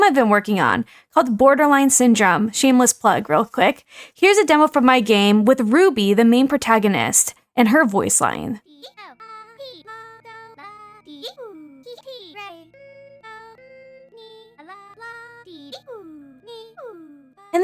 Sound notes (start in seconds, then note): 12.5 humming; 12.7 mimics